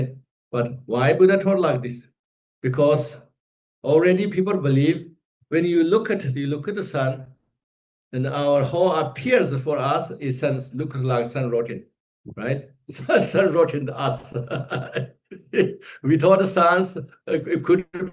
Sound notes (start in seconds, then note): 14.0 laughs